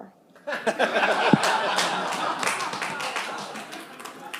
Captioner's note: laughter, applause